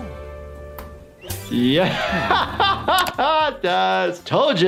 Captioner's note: laughs